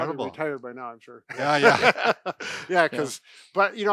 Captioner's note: laughter